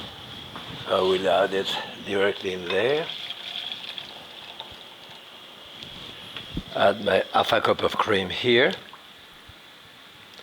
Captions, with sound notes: I will add it directly in there. (soup pouring) Add my half a cup of cream here.